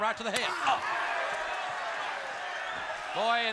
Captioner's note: audience cheering